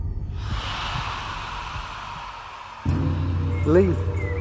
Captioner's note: screaming